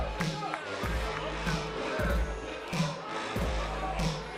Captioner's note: cheers & boos